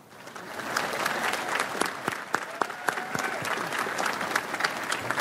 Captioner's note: audience applauds